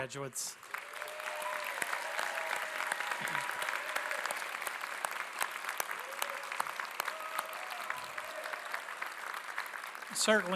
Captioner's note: applause